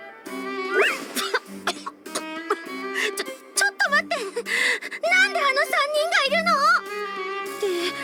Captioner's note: cough